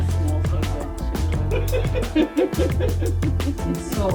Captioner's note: speakers chuckling